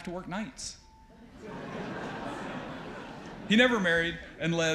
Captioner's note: audience laughs